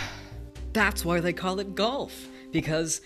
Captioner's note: Martin sighs